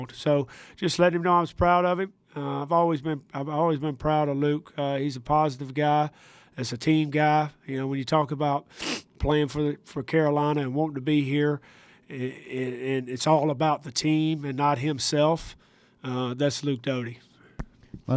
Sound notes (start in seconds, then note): 8.7 sniffs